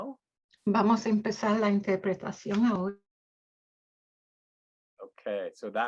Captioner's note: speaking in Spanish